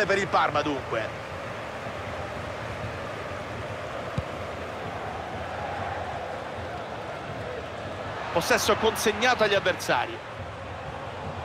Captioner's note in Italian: Applauso